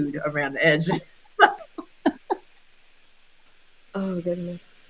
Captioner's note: all laughing